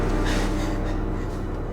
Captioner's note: gasping